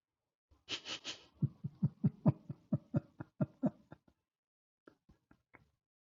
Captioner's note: Ketawa